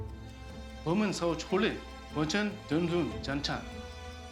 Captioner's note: talking in chinese